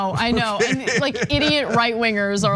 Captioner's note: laugh